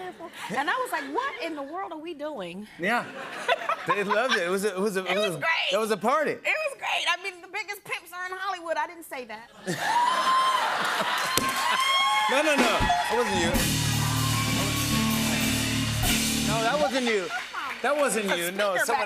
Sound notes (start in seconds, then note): 3.0 laughter; 9.6 laughter; 10.2 cheers and applause